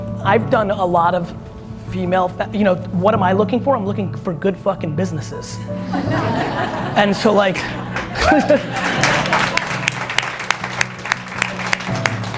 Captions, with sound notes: I've done a lot of female... What am I looking for? I'm looking for good fucking businesses. (audience laughs) (audience applauds)